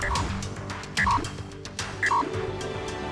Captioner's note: card beeping